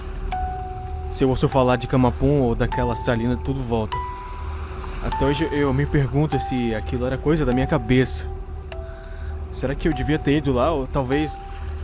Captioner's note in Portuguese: Som de ondas e vento diminuindo